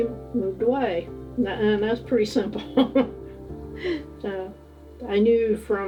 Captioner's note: chuckling